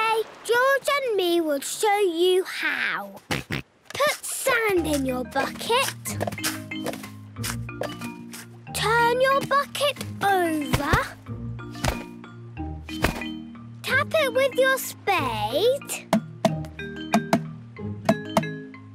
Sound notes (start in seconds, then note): 16.1 tapping